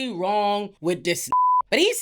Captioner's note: beep